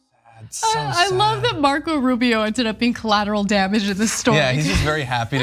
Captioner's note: laugh